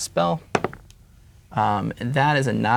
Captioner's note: dice rolling